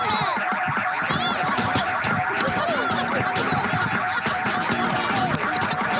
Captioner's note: laughing